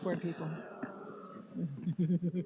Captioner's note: moaning; laughing